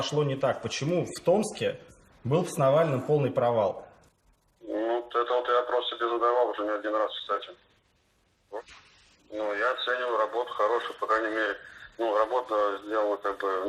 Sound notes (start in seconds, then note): 2.7 speaking Russian